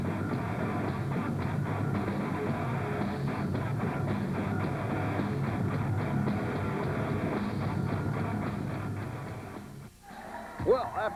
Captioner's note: crowd cheering